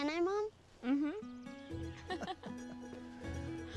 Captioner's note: laughs